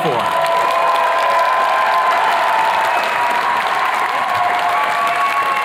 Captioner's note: attendees cheers and claps